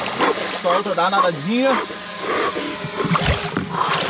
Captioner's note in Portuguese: respirando rápido